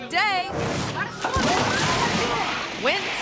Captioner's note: bridge crashes; guests yell